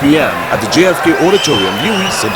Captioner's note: wild applause and cheering for 22 seconds